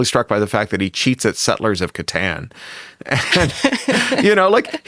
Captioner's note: chuckles